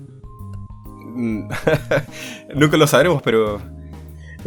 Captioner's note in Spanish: risas